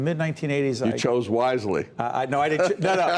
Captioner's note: laughter